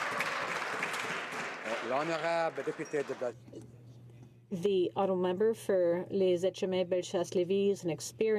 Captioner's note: some Applause